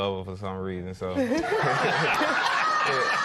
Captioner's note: laughter